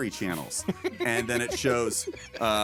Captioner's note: laughing